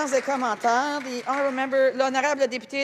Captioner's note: some applause